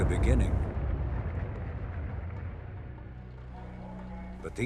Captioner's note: engine roaring